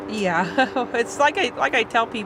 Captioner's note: chuckles